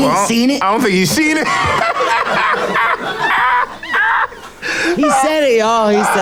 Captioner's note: people laughing